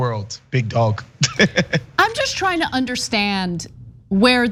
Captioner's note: laugh